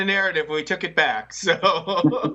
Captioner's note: laughter